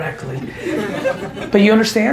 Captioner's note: audience laughing